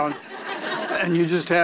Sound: audience laughing

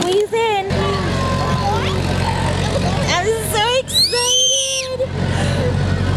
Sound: shreiks

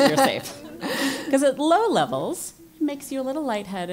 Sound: laugh

